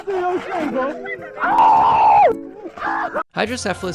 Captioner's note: screaming